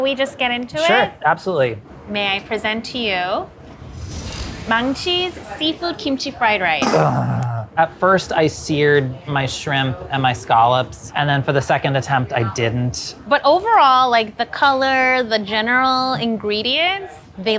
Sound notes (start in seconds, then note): 6.8 groans